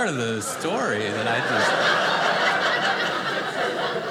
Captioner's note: audience laughing